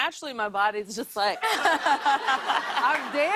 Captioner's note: laughter